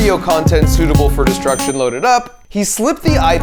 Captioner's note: bell dinging